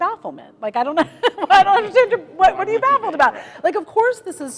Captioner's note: laughter